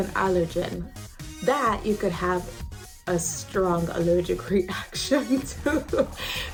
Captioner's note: laughs